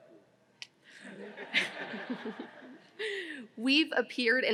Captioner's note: audience laughing